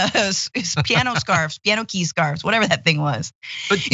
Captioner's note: laugh